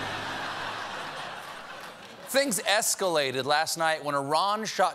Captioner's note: laughter